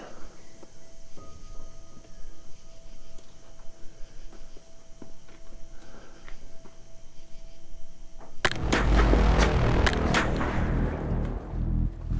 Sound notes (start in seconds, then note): 0.8 eerie piano music; 8.4 shots blasting